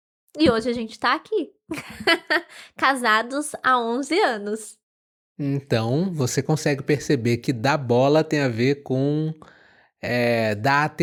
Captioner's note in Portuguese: risadas